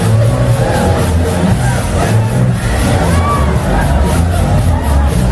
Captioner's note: clap